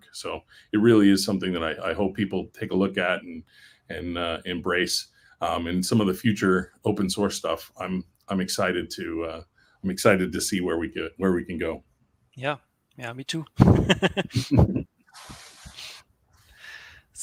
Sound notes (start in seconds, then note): 13.6 laughs